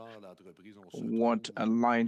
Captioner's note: speaking French